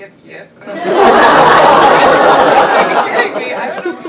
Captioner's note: laughter